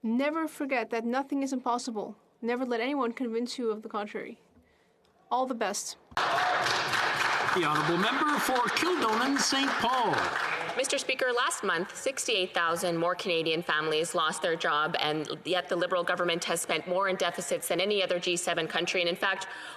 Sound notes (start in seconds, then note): 9.5 some Applause